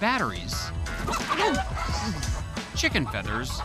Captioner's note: chicken clucking